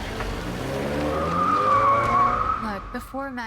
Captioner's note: engine roaring; tires screeching